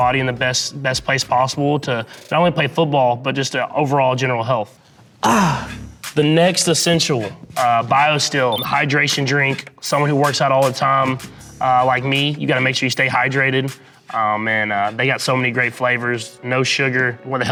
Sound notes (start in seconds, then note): 5.2 Patrick comically gasping